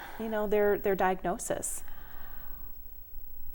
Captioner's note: sighs